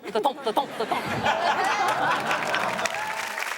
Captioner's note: everyone laughs; audience applauds